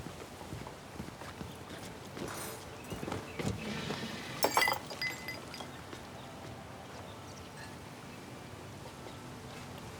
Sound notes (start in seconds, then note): 4.4 glass smashing